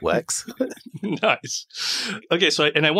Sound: laughing

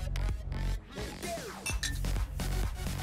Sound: glasses tinkling

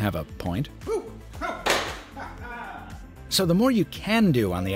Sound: phone slamming

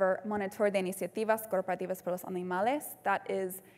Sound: speaking in Spanish

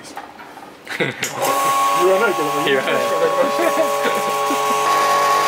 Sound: laughs

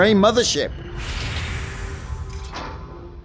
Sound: mothership ramp opens

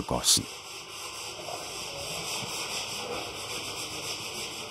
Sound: grinding noise in the background

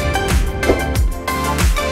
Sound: upbeat music; whoosh; upbeat music

